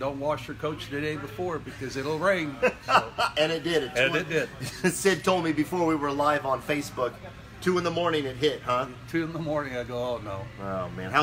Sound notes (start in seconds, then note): 2.5 laughing